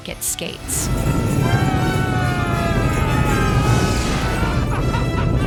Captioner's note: screaming